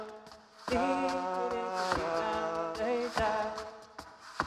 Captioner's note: shoes clacking